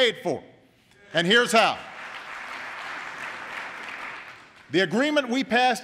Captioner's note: applause